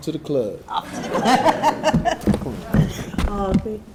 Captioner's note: laughs